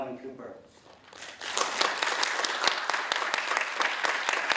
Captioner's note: applause